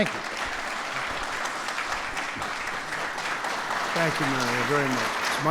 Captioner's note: applause